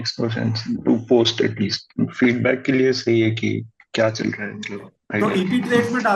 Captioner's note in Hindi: गला साफ़ करने की आवाज़